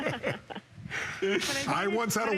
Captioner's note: laughter